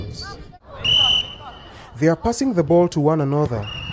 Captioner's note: whistle trilling